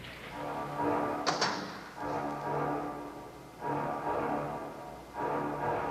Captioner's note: door closing; eerie music